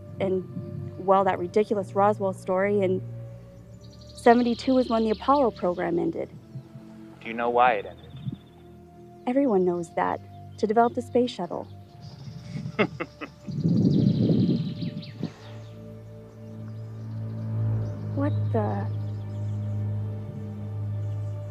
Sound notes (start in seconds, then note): 12.4 Cedric laughing; 14.7 birds tweeting